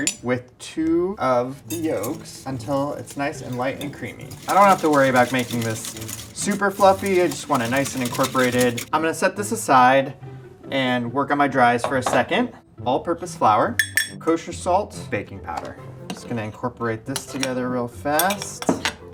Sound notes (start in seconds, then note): 13.8 knife clanking